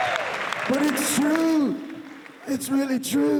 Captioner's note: imitating Ozzy Osbourne